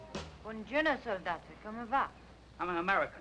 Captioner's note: speaking in Italian